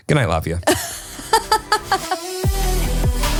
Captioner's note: laughing; upbeat music